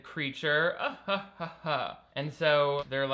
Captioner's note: laughing fakely